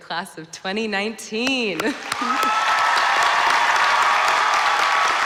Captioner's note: applause